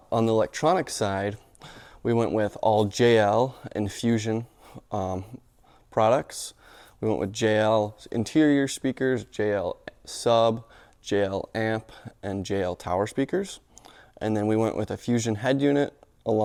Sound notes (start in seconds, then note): none